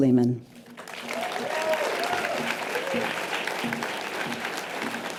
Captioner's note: audience applause